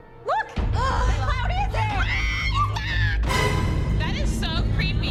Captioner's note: gasping; screaming